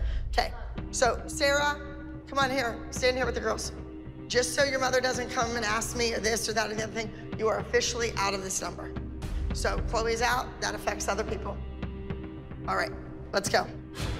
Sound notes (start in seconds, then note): none